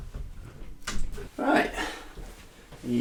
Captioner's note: door closing